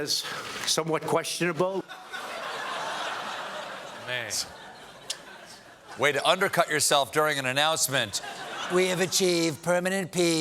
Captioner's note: laughter